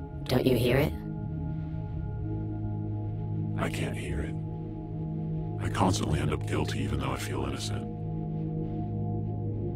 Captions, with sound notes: Don't you hear it? - [Low Voice] I can't hear it. I constantly end up guilty even though I feel innocent.